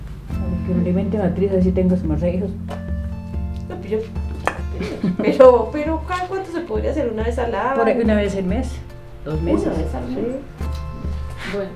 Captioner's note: murmurs